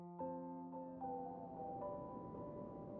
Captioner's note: sound of wind rising